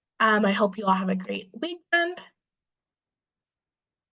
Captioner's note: recording stopped